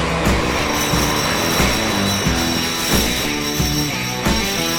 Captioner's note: shackles rattling